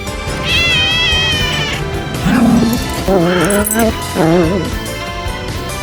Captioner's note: meows; growls